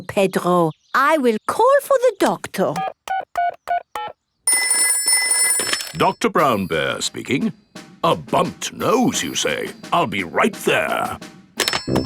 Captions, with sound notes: Poor Pedro. I will call for the Doctor. (DIALING) (TELEPHONE RINGING) Doctor Brown Bear speaking. A bumped nose you say? I'll be right there!